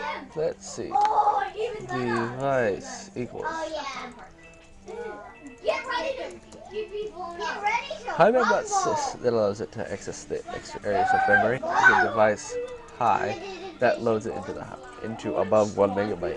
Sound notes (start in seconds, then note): 4.1 typing